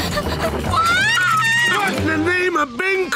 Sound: screaming

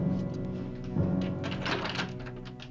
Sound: door opens

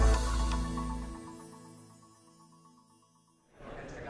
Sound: upbeat music; chimes tinkling

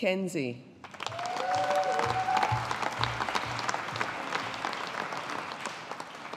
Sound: audience applauding

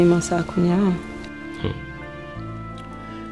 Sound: humph

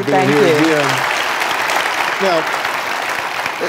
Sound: audience applauding

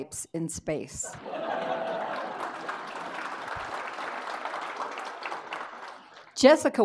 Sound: audience laughing; audience applauding

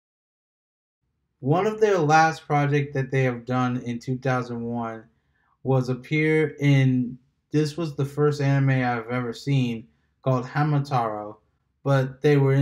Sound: said in Japanese

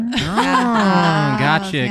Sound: laughs

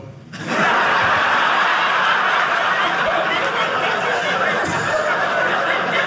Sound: audience laughing

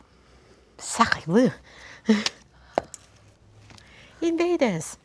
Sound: speaking foreign language

